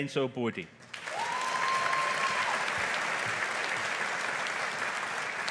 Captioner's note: audience applauding